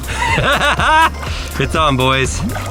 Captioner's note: laughing